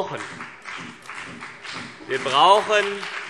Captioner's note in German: Beifall BÜNDNIS 90/DIE GRÜNEN und vereinzelt CDU